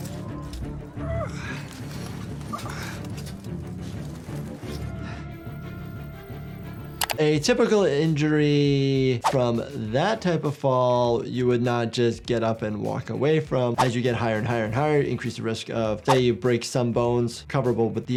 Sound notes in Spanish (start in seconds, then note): 0.9 Steve gimiendo